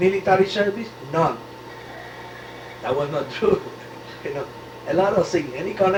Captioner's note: laughs